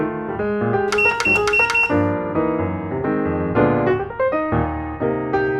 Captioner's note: click 4 times in a row